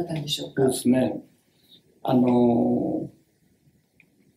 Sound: speaks Japanese

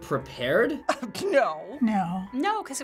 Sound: scoffs

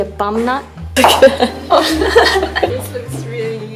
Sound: laughs

